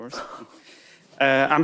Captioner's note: chuckling